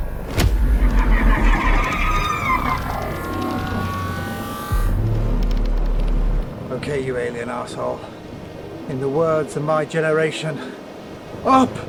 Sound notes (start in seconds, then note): 0.7 alien shrieking